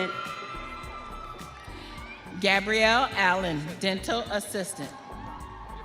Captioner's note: audience cheering